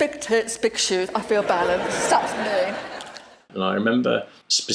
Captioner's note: laughter